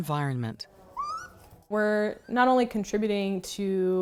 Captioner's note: raccoon chirping